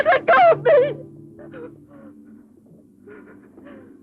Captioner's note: sobbing